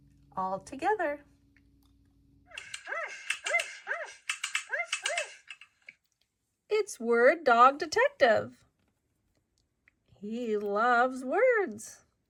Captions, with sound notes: all together. (dog barks) It's Word Dog Detective. He loves words.